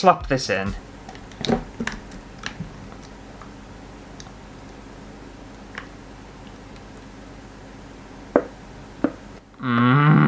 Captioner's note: sloppy Sounds